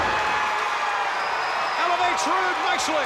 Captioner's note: crowd cheers